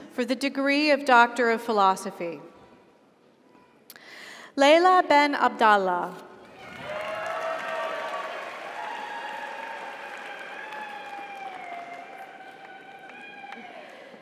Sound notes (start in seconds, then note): 6.5 audience applauds; 6.6 audience cheers